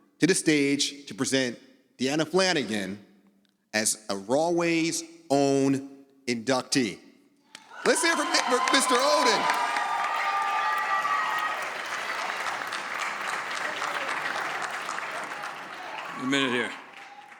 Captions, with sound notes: to the stage to present Deanna Flanagan as a Rahway's own inductee. Let's hear for Mr. Odin. (audience cheering) A minute here.